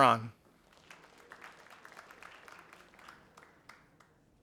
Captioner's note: audience applauding